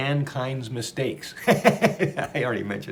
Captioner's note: laughs